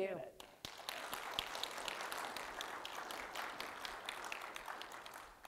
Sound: audience applauding

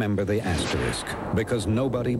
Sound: whoosh

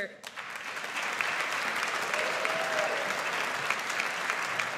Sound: audience applauds

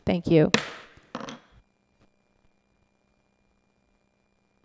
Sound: gavel bangs

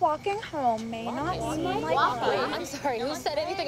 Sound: all protesting

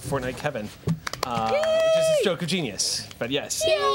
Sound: cheering and clapping

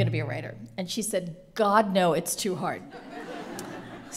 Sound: laughter

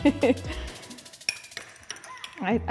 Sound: laughs; spoon clinks

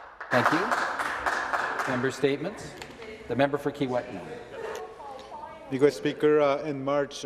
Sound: some Applause

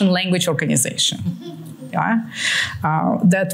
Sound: laughter

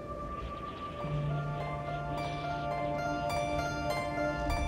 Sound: wind whipping

